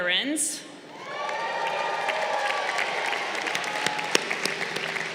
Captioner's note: crowd cheering